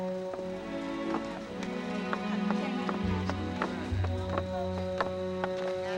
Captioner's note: people chattering